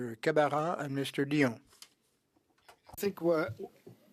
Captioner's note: speaking French